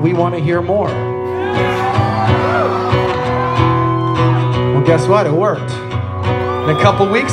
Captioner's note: crowd cheers